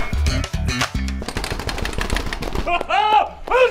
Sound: desk rattling

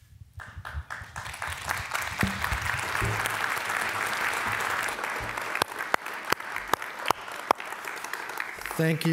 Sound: applause

